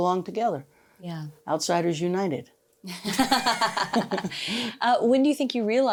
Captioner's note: both laugh